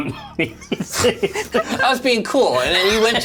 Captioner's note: laughs